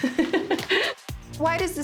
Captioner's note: laughing